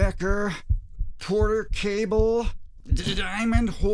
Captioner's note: heartbeats